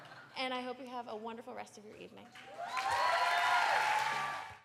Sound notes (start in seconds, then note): 0.0 laughter; 2.4 cheers